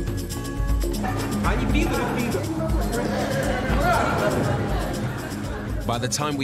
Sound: speaking in foreign language

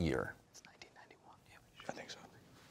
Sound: whispering

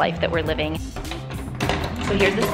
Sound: handle rattles

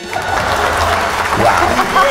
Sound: audience laughs and claps

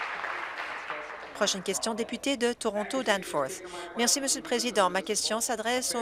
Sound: applause

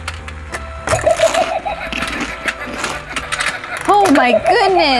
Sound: shark laughs

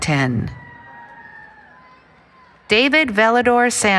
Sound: cheering

